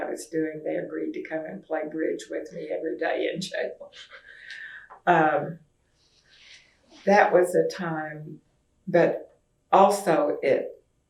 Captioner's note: laughs